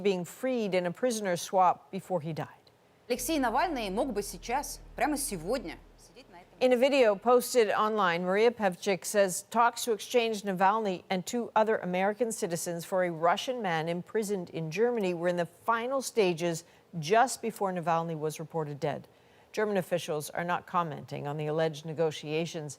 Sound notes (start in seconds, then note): 5.1 speaking alternate language